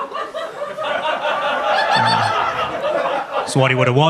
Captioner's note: audience laughs